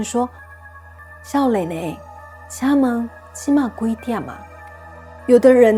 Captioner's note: in Taiwanese